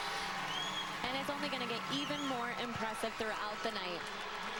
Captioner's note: cheers